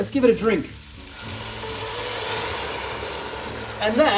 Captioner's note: loud sizzling